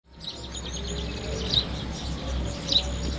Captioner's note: birds chirping